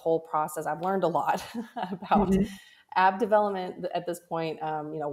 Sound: laughs

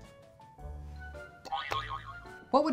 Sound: boy-yoy-yoy-yoing

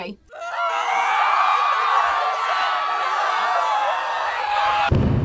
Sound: collective screaming; HUMAN's giant footsteps approach

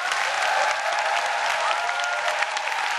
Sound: applause

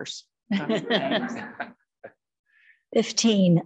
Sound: group chuckling

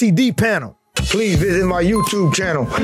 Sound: moderate music; sound effect chimes

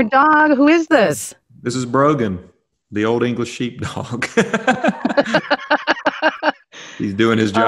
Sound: laughter

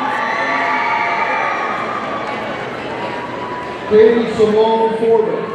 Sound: audience cheering

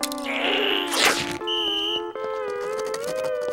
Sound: whistle blowing

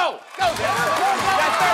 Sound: cheering

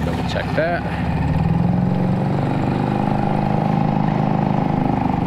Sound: boat motor hums

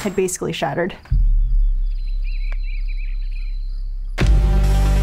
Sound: birds chirping

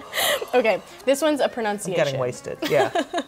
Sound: laughs

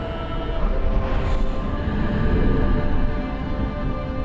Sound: Ren breathes deeply and slowly

